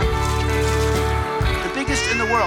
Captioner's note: paint splattering